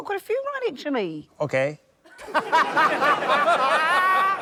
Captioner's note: laughter